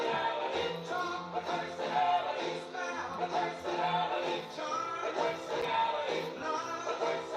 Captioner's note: music & Applause; more Music & Applause